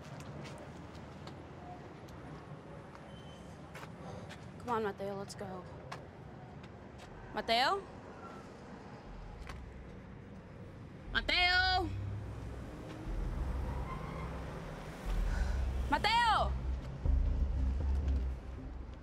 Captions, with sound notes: Come on, Matteo, let's go. Matteo? Matteo? [sighs] Matteo?!